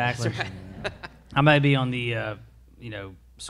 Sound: all laugh

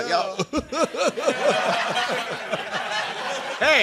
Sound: laughter

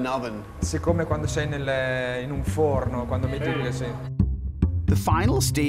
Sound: speaking Italian

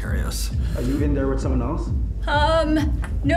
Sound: muffled through door

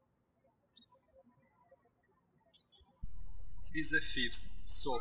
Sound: birds chirping

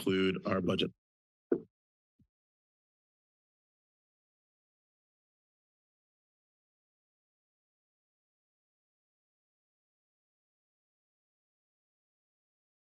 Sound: silence

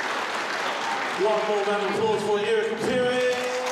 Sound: applause

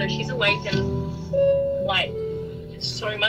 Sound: intercom beeping

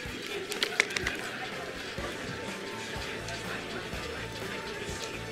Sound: attendees chattering

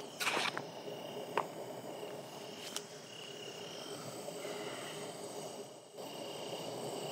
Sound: crickets, slight wind noise

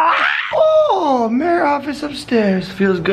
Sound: high pitched

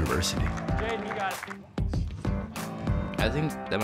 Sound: clapping

